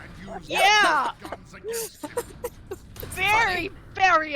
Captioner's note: laughs